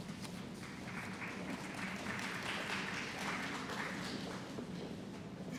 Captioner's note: applause